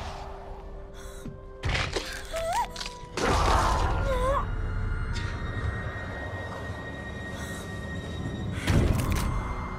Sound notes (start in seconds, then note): 1.4 pants; 1.7 bones crack; 7.0 intense music